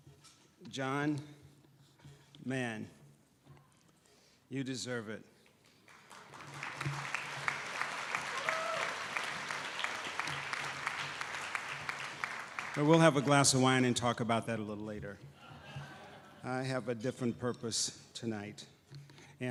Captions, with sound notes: John, man, you deserve it. (audience applauding) We will have a glass of wine and talk about that a little later. I have a different purpose tonight